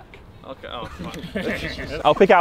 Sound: men laughing

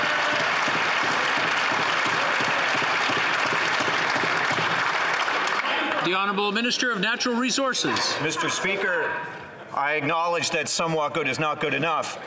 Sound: some Applause

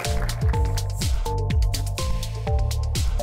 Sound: applause

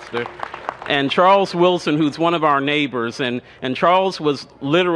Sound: cheers and applause

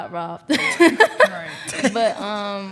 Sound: laughing

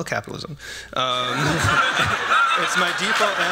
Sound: laughter

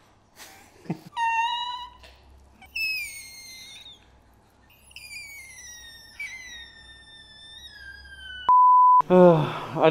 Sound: standby beep; high pitched crying; laughs; sighs

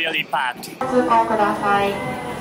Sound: annoucements in japanese

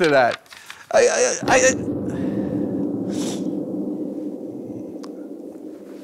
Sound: bombs drop in the distance

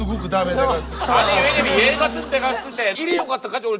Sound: haha

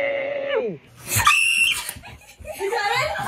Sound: screaming

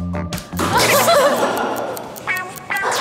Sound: hahahaha

